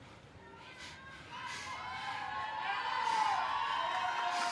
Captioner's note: crowd cheering